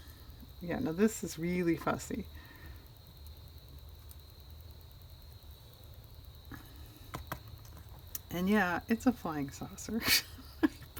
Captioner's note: laughs